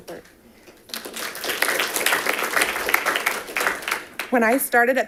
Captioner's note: audience applauding